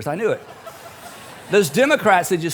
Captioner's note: audience chuckles